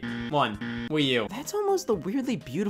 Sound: game buzzer

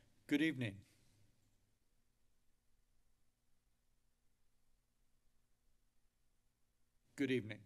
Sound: silence

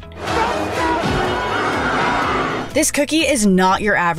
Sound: crowd roars

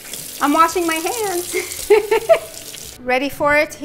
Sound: laughs

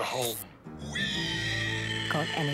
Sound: squealing

